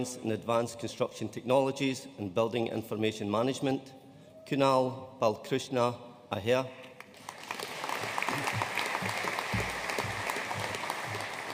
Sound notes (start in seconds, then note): 7.0 audience applauding